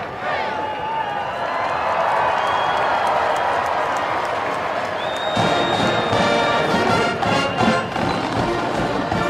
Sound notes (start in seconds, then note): 1.5 crowd cheering; 5.3 band music